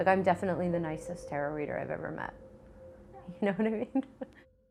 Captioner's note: giggles